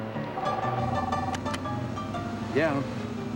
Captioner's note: cellular onrings